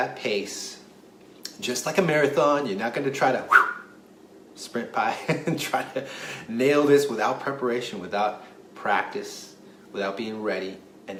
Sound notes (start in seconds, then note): 3.5 whoo; 5.5 laughs